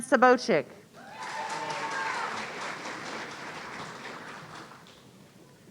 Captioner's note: audience cheering